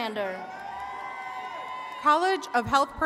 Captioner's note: attendees cheering